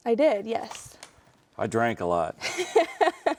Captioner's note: laughing